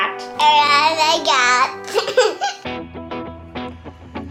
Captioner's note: laughs; energetic guitar music